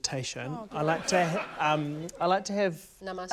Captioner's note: laughter